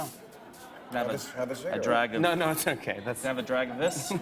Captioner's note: laughs